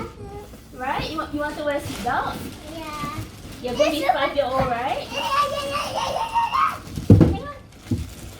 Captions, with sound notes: You're going to be five years old right? / (excited squeals!)